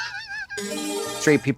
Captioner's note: bright chime